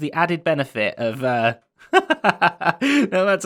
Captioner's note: laughs